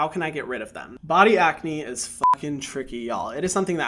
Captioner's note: beep